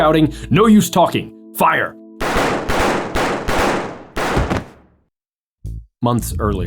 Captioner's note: gunshots